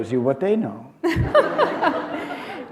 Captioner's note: laughter